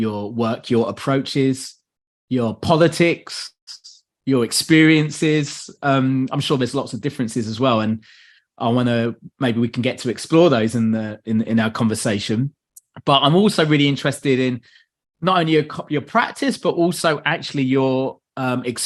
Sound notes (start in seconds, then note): none